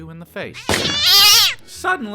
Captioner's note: cat screech